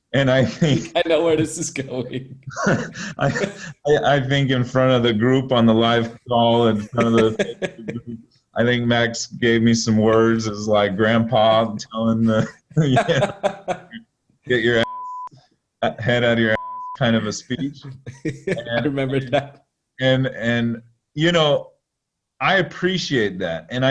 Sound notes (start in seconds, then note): 3.3 chuckling; 17.0 chuckling